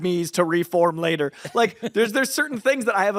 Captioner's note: laughs